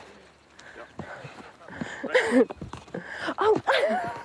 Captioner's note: laughing